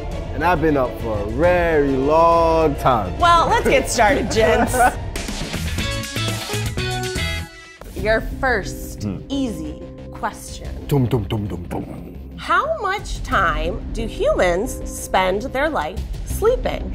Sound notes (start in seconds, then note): 5.2 upbeat music; 10.8 mimicking drum beats